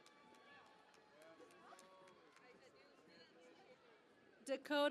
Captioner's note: cheering and Applause